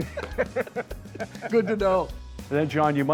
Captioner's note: laughing